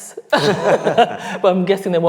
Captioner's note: laughing